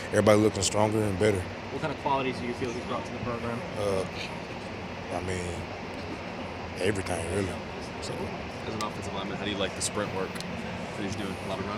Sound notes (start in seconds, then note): 8.3 speaking softly